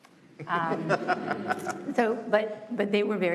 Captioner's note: laughter